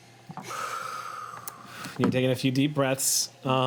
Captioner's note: exhales